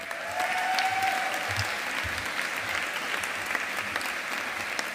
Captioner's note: audience applauding